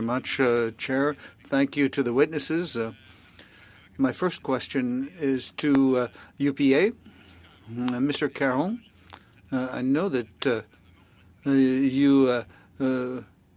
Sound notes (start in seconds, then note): 7.7 speaking french